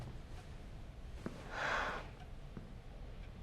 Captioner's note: SlGHS